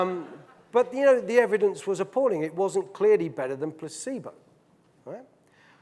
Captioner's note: audience laughing